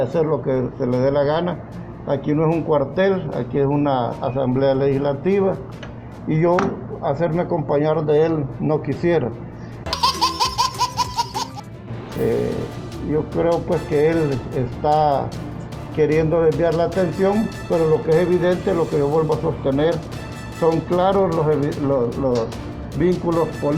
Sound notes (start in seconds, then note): 9.9 laughs